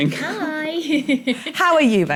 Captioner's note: chuckles